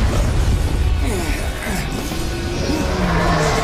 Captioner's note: grunts